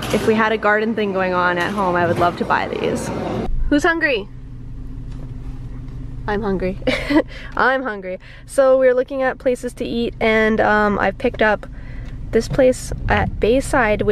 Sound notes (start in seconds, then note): 6.8 laughs